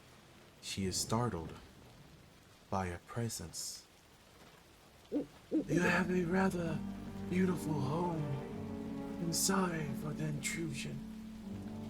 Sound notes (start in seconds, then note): 5.1 owl hoot hoot; 5.6 dark sinister music